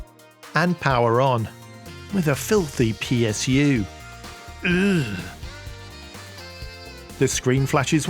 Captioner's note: urgh